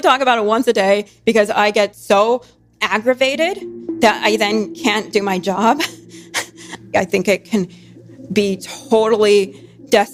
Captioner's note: laughs